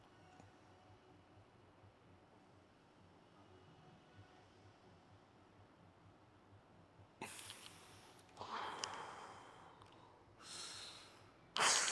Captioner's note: breathing heavily